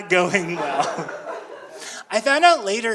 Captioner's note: audience laughing